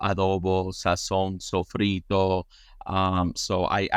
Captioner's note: speaks in foreign language